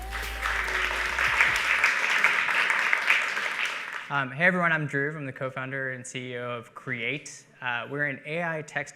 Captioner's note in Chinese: 掌聲